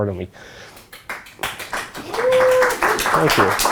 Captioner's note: audience applauding